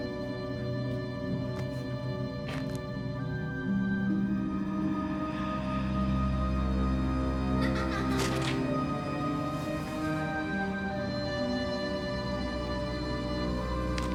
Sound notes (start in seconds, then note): 7.5 child laughing; 11.5 eerie orchestral music